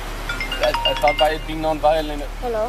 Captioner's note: cell phone ringing